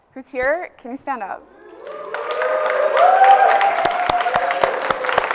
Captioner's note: audience cheers and applauds